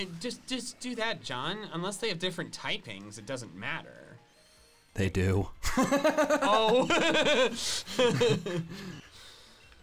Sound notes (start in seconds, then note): 5.8 laughs; 7.8 laughs